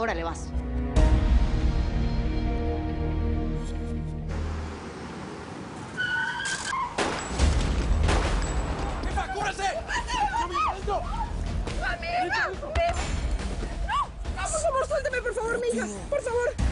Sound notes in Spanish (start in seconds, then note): 6.7 Chirrido de gomas; 6.9 Disparos; 10.2 Gritos; 11.1 Aracely habla entre dientes